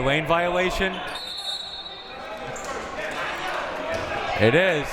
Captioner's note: whistle